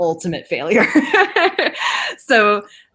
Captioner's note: laughing